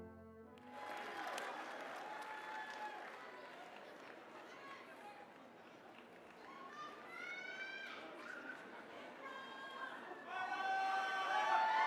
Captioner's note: applause